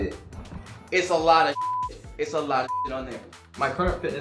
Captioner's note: beep